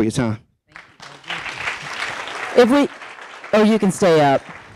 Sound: audience applauding

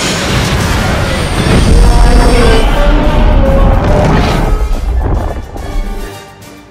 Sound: rumbling; roaring in pain

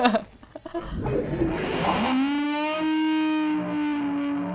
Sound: high pitch sound

